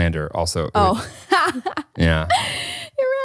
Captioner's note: laughs